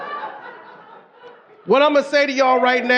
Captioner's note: audience laughing